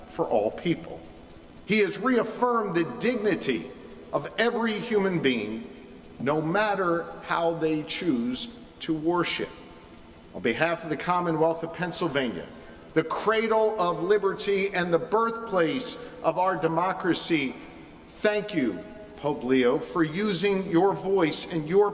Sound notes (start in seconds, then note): none